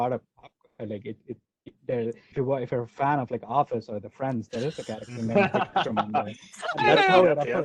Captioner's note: laughter